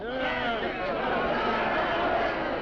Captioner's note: crowd; crowd yelling